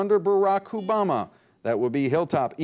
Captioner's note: buzzer beep